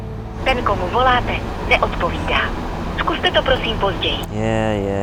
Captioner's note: operator speaking in foreign language